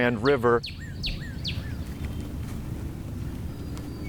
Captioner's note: birds chirping